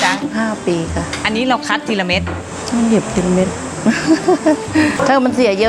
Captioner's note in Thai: เสียงหัวเราะ